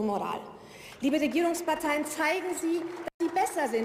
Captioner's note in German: Beifall